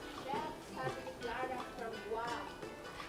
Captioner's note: sizzles